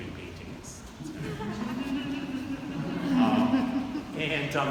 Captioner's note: audience laughing